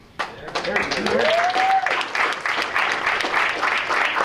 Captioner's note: applause